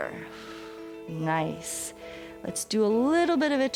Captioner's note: exhales